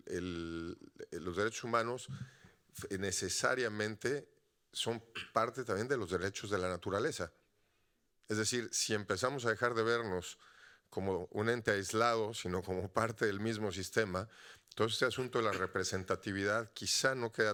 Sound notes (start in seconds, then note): 8.8 audience member speaking Spanish continues